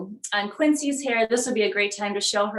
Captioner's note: none